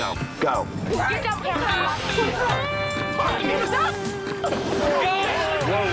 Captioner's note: arguing